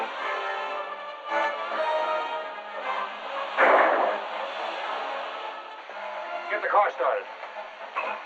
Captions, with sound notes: [gunshot] Get the car started!